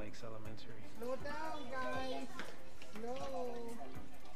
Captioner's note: children chattering